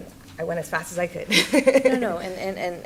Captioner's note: laughs